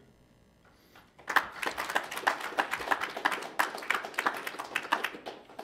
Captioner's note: audience applauds